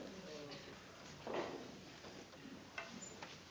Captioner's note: none